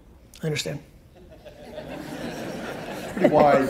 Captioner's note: audience laughs